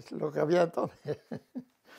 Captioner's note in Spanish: ríe